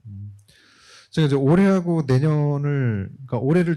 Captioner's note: speaking korean